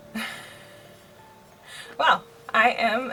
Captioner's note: laughs